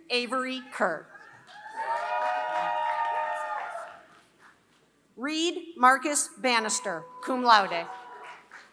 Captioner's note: applause; applause